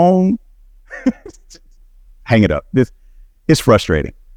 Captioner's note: laughing